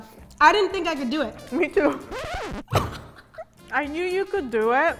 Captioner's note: record stopping